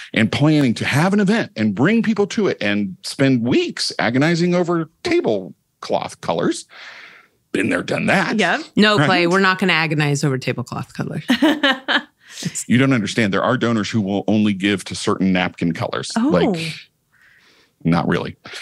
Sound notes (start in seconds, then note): 16.2 laughing